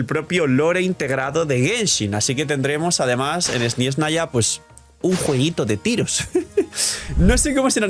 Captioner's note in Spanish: risas